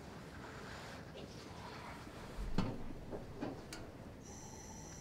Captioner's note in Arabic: موقد الهسهسة